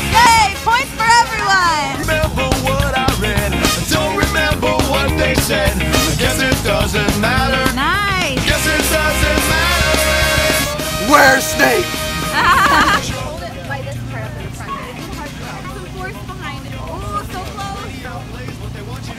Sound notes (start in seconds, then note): 12.2 laughter